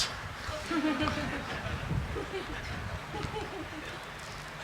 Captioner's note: congregation laughing